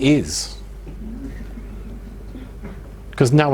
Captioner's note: audience murmuring